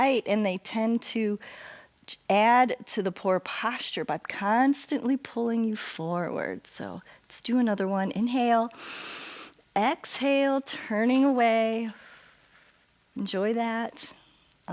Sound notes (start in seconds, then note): 8.7 inhales; 12.1 exhales